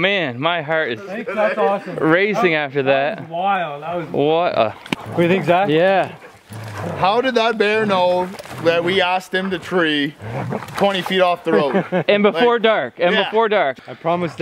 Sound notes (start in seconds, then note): 3.3 men chattering